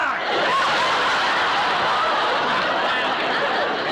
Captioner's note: laughter